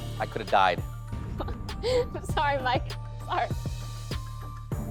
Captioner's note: chuckles